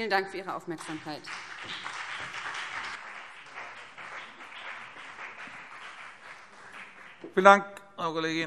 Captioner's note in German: Beifall BÜNDNIS 90/DIE GRÜNEN